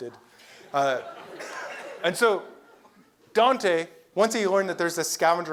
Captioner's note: laugh